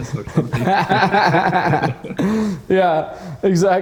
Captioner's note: both laughing